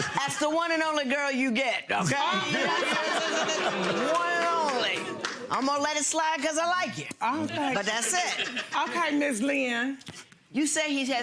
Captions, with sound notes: - That's the one and only girl you get, okay? (audience oohs) One and only. Imma let it slide 'cause I like ya. - Oh thank you. - But that's it. - Okay, Ms. Lynn.